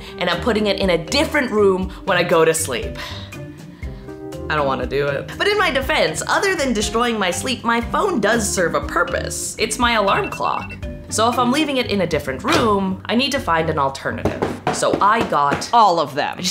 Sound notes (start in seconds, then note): 10.0 alarm ringing